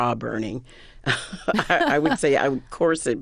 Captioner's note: laughter